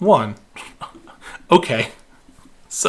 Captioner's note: scoffs